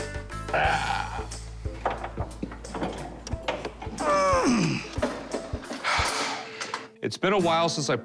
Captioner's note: grunting